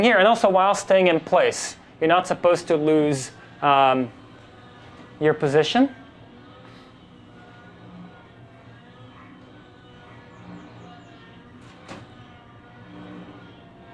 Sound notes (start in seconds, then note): 6.0 helicopter propellers whirring